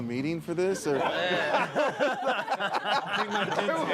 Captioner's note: group laughing